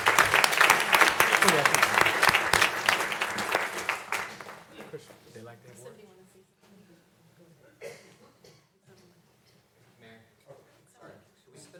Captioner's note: applause